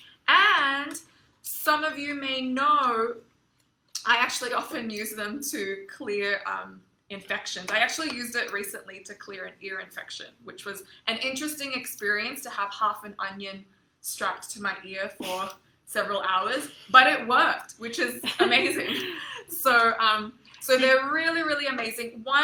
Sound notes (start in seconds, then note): 16.0 chuckles; 18.1 laughs